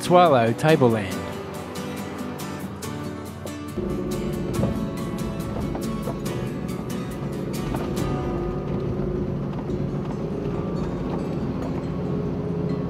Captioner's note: music background and vehicle sounds